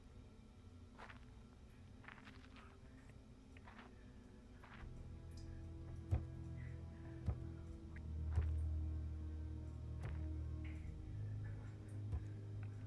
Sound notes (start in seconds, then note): 6.0 feet stepping; 9.9 ominous music